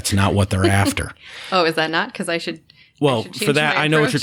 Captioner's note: laughter